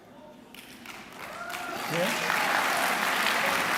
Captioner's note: clapping